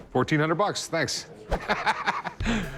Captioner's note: laughter